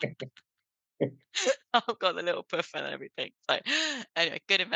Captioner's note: laughing